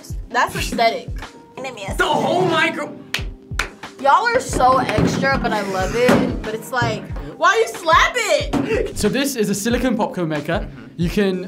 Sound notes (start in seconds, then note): 3.5 claps; 5.5 laughs